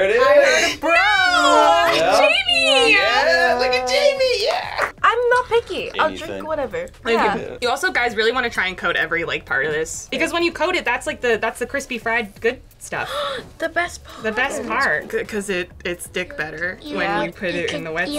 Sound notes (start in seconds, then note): 13.0 gasps